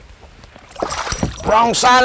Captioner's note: splash